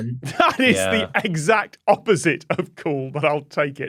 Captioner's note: laughs